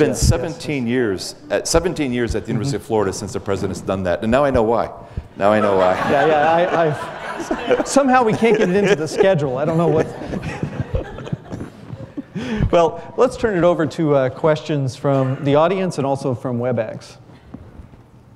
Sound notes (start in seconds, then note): 5.5 laughter